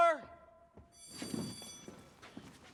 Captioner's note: bell rings